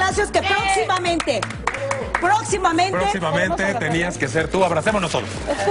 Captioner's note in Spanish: aplausos